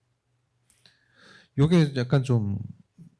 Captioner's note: speaking korean